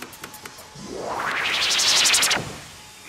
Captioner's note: teleportation rustling